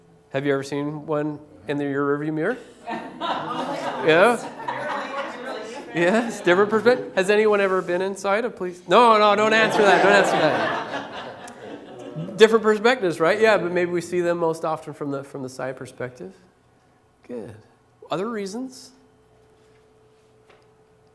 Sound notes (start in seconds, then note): 2.8 laughter; 9.4 laughter